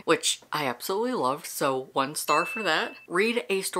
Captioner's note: bell dinging